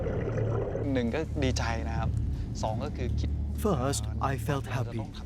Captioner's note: speaking Thai